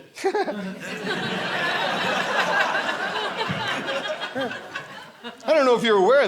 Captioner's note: audience laughing